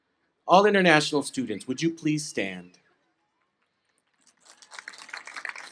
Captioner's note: applause